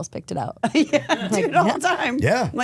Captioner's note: laughs